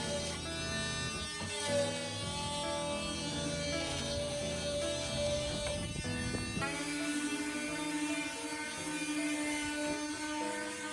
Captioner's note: sanding